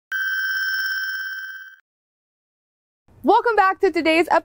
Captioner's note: high-pitch dinging